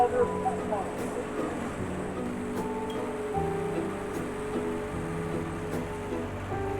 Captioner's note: cheerful music; Zamboni whirring